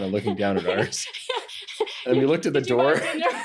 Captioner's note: laughing